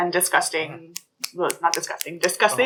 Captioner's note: snaps his fingers